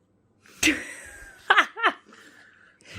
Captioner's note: laughter